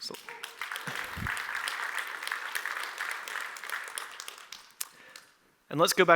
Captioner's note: applause